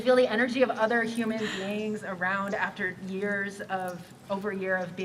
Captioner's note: laughter